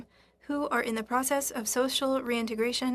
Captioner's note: speaking French